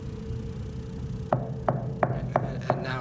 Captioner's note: knocking